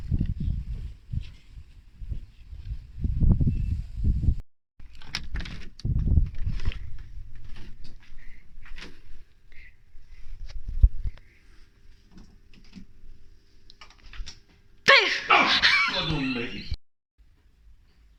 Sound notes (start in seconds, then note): 4.9 door clicks open